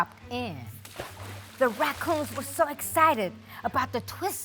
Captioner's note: water splashing